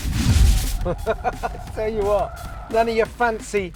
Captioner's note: laughs